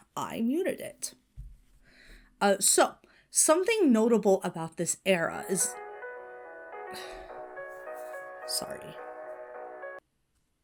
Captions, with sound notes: I muted it. So something notable about this era is— (ringtone plays) (Hana sighs) Sorry.